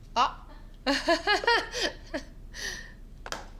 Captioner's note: laughs